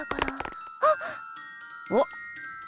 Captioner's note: gasp